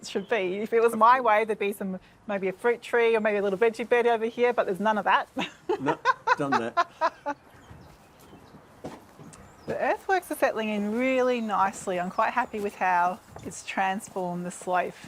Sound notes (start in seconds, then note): 5.3 laughs